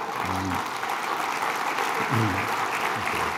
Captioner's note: applause